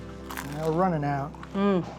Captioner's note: crust crunching